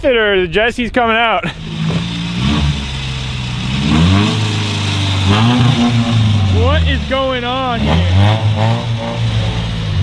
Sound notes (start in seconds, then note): 4.4 engine revving